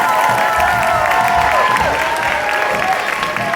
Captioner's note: applause